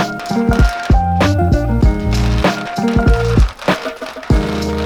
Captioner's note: jewels clacking